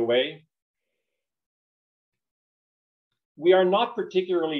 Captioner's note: silence